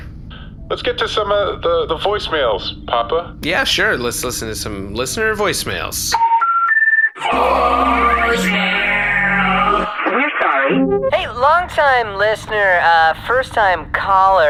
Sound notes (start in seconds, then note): 6.2 dial up sounds; 11.1 voicemail plays